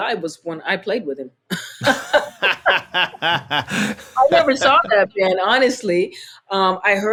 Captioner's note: laughter